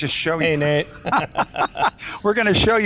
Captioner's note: laughing